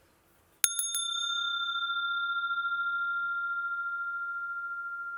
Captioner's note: sound of the bell